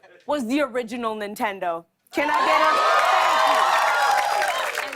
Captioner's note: cheers and applause